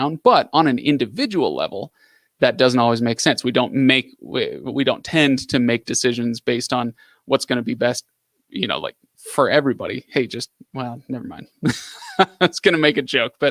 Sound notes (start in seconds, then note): 11.6 laughs